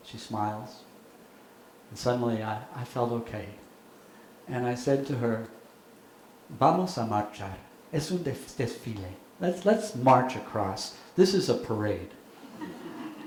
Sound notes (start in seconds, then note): 5.2 speaking in foreign language; 12.4 audience laughing